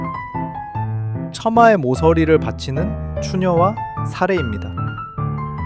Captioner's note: speaking in foreign language